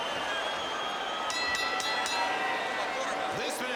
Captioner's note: bell ringing